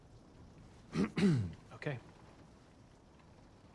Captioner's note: clears throat